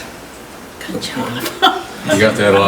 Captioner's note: chuckles